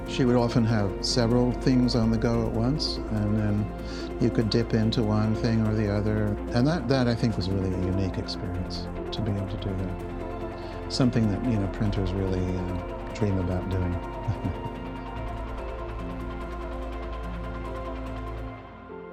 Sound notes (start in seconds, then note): 14.2 chuckles; 15.2 bright lively music